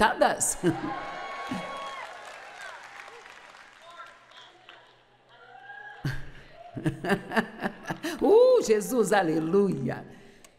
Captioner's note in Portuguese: audiência se alegra